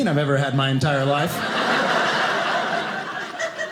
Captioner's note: audience laughing